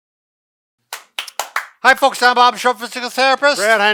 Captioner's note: claps hands